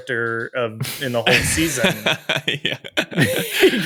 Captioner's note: charles chuckles